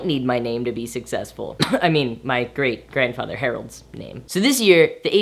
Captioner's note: coughs